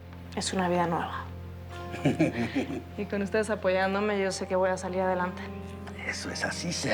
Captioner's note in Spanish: Risas